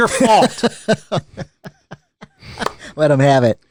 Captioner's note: laughter